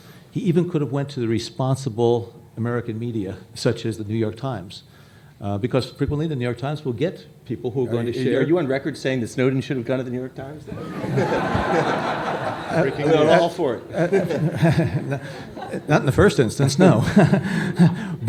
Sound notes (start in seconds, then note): 10.6 laughter